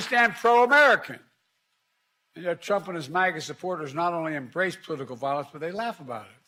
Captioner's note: applause